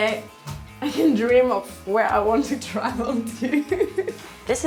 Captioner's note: laughing